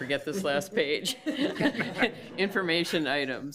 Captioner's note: committee members laugh